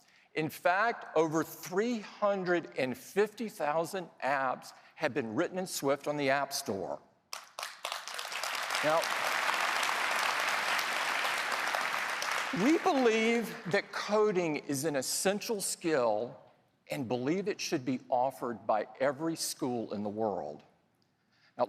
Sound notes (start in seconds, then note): 13.7 applause